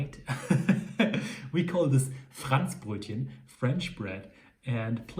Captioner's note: laughs; speaks in foreign language